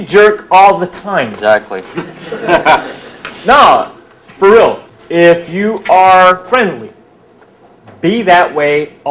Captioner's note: laughter